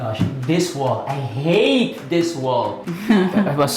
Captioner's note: laughter